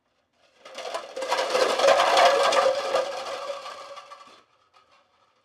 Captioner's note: clattering